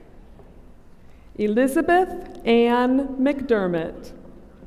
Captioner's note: none